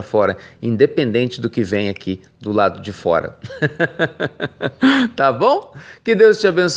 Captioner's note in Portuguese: risos